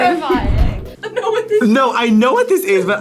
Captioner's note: laughs